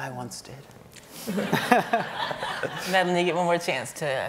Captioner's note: audience laughing